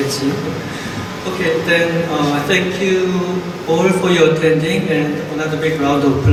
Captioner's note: voiceover